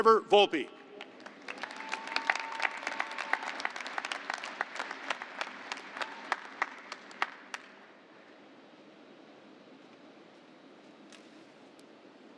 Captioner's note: applause